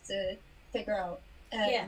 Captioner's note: none